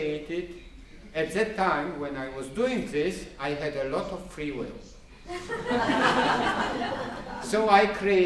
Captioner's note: laughter